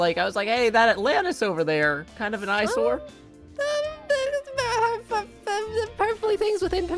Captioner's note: stammers